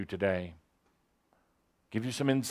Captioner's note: none